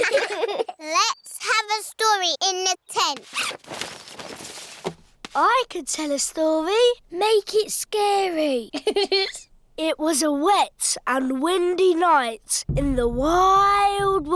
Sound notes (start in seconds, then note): 8.7 giggling